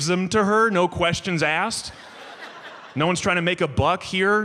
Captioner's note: audience laughs